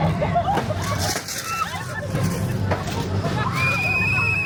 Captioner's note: metal rattling; riders screaming; whistle blowing